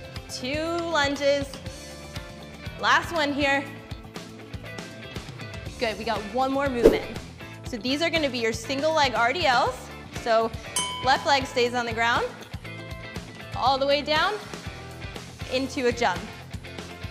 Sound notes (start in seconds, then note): 6.7 air swoosh; 10.3 bell chimes